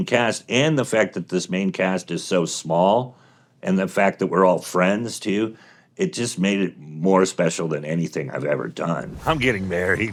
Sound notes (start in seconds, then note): none